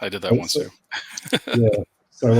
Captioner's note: laughs